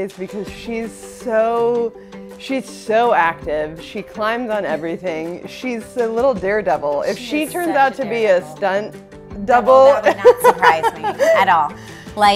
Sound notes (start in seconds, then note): 10.0 laughs